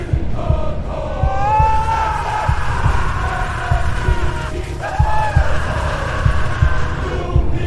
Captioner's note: heart Beating; screaming in fear; heart Beating